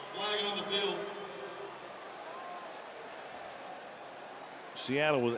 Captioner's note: pa announcement